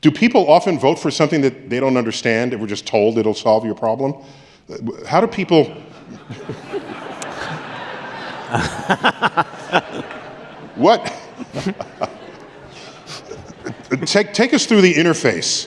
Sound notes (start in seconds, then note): 5.9 laughter